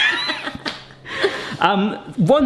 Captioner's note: laughing